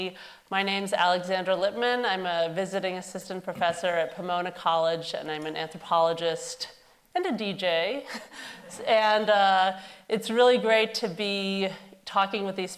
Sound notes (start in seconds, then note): 8.5 audience laughing